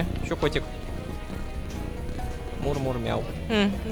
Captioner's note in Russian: Мурлыканье и мяуканье